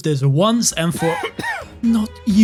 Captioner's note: smog Cough